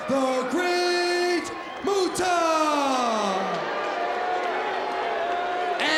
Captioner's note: crowd boos